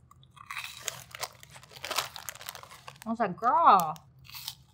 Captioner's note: munching